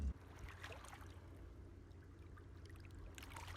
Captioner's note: water sounds